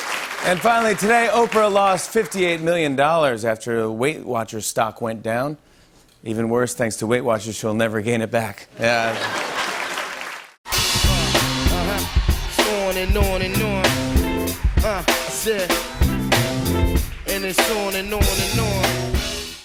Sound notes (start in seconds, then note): 0.0 cheers and applause; 8.9 laughter